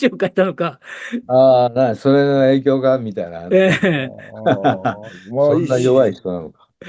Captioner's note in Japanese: 笑い